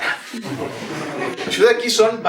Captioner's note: laughter